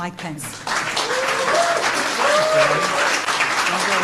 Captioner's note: applause